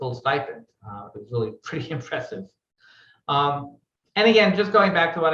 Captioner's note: laughing